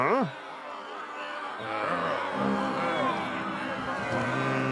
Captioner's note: angry crowd noise